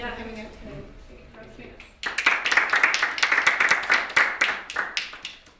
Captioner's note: audience applauds